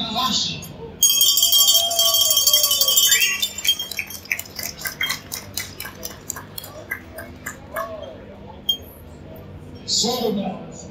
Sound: crowd cheering and clapping

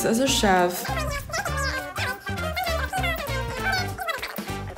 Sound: voice whining rapidly

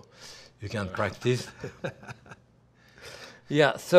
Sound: Ming laughing

